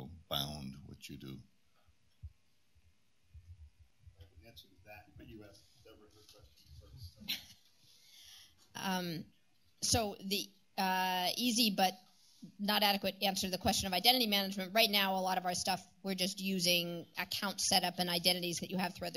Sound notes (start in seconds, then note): 2.6 indistinct chatter